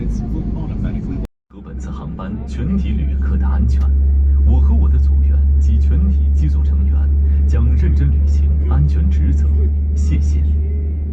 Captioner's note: something in Chinese